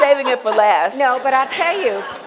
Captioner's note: laughter